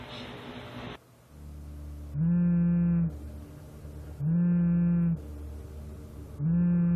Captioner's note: ominous music; cell phone buzzing